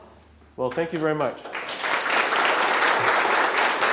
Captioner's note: audience clapping